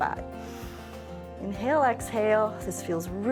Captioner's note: inhales